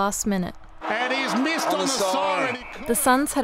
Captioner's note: crowd cheering and Siren